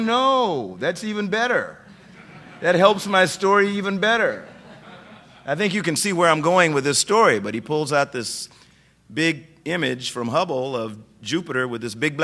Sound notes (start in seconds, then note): 4.4 laughter